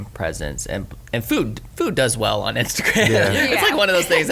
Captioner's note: laughs